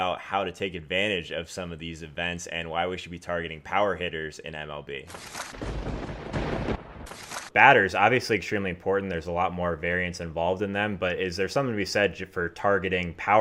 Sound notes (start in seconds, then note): 5.5 lightning strike and thunder crashing